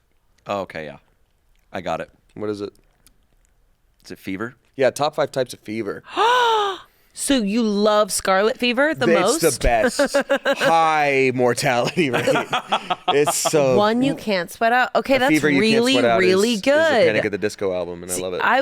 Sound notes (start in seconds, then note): 6.1 gasps; 11.7 laughs